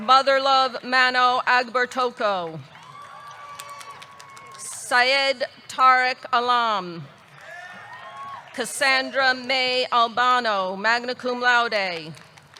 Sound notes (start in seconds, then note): 2.4 audience clapping; 2.6 audience cheering; 7.2 audience clapping; 7.4 audience cheering; 11.7 audience clapping